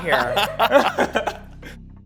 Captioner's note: laughs